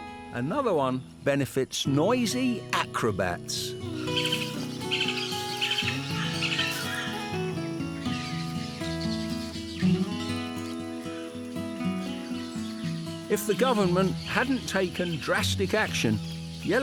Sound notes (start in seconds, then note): 4.5 birds squawk; 10.1 happy music